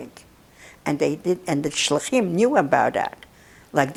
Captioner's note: hebrew